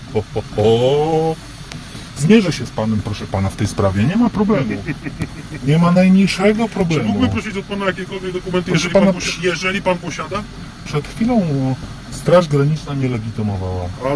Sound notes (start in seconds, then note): 4.4 guard laughs